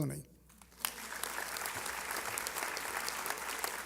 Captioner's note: applause